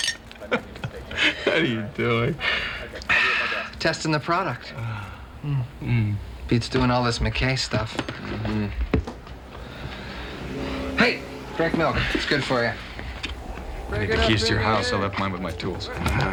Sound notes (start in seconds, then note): 0.2 laughs; 4.7 sighs